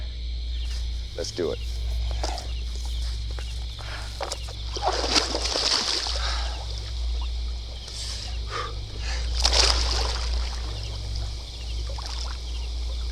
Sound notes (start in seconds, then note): 4.3 crickets Chirping Continues